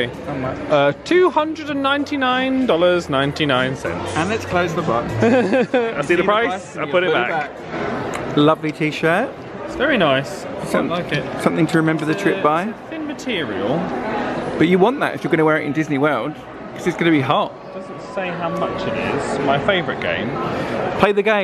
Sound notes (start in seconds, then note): 5.1 laughs